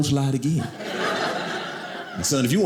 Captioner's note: audience laughing